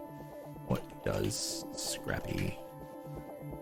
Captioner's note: clicking keyboard